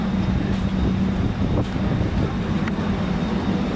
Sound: windy sound

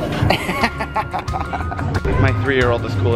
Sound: laughing

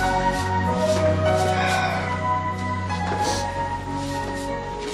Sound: exhales, sniffles

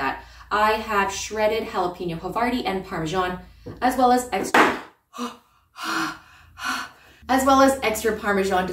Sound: bang; heavy breathing

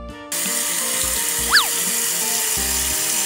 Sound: water gushing; light music

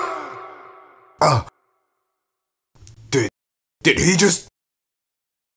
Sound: grunts

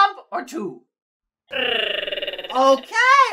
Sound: platypus chatter

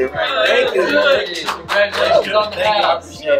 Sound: everyone cheering

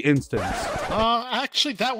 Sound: record scratch

